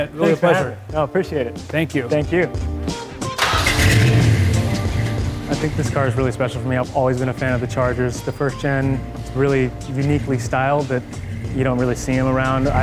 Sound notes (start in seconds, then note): 3.3 engine cranking and revving; 3.6 upbeat music